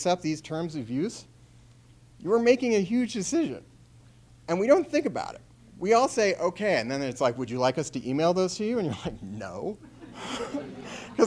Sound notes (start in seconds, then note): 9.8 chuckles